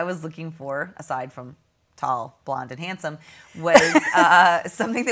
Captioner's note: laughing